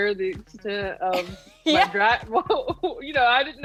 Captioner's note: laughing